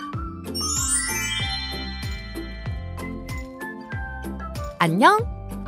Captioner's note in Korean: 반짝이는 효과음